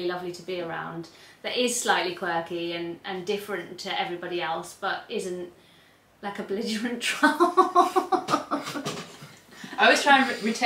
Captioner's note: laughs